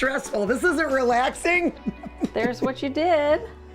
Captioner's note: laughs